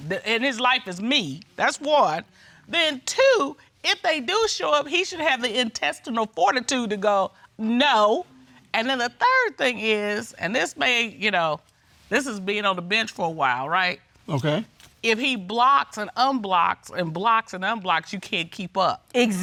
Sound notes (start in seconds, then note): none